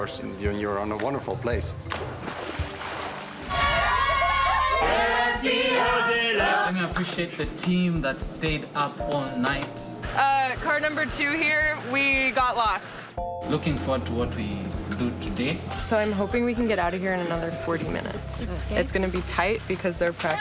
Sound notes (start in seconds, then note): 0.4 water splashing; 3.5 cheering; 4.9 team singing